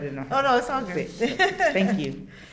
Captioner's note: laughs